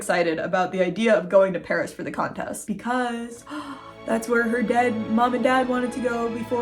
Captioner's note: gasp!